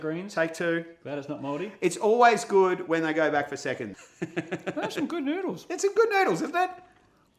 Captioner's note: laughs